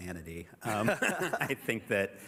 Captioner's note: laughter